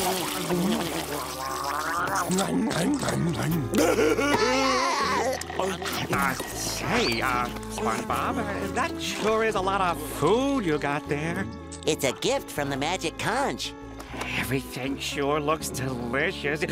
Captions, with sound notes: [laughs] Hey! Uh, SpongeBob, that sure is a lot of food you got there. It's a gift from the magic conch. Everything sure looks delicious.